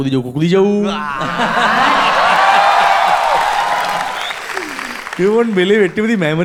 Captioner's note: crowd applauding